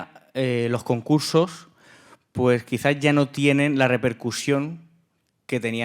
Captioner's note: speaking in Spanish